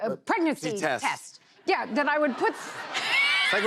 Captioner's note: laughter